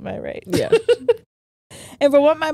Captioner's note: laughs